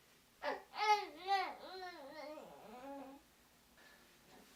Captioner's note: baby babbling